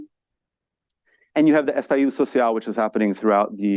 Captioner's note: speaks foreign language